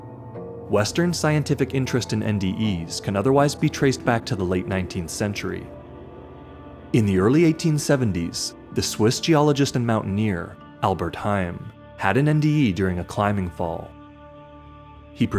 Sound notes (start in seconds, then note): none